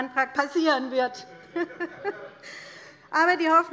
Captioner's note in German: Heiterkeit bei der LINKEN und bei Abgeordneten der SPD